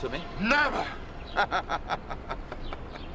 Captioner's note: laughing